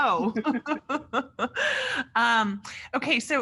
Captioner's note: laughing